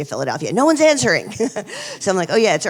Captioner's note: chuckles